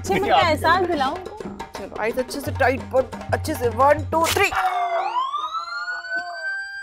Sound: muffled screams

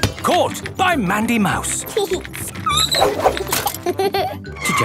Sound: giggling and squeaking; laughing; laughter

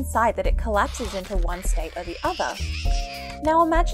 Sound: cat screeching

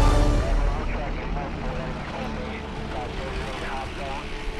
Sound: radio chattering

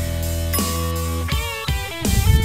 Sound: rock music; bell ringing; rock music continues

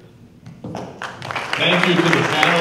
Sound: applause

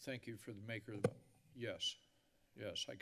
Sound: mic thump

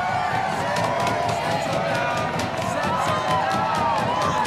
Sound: cheering; banging on desks

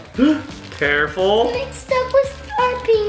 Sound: and dad gasping

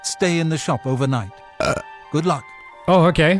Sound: burp

